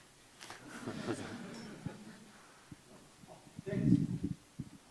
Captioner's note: audience laughing